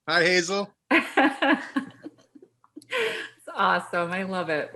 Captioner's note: laughs